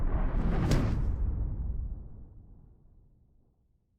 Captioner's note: whoosh